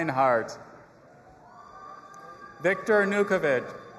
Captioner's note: audience applauding and cheering